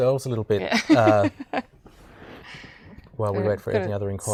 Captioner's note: laughing